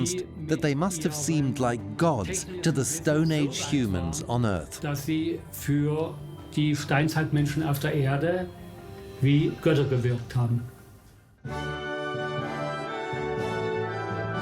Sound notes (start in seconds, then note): 4.7 speaks in German; 11.4 orchestra plays